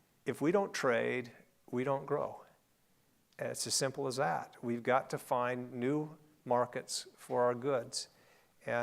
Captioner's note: none